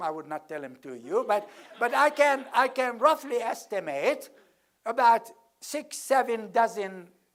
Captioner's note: laugh